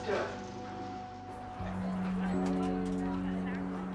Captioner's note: chattering